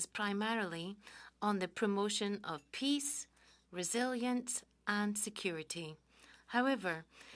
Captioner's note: speaking French